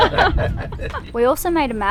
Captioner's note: laughter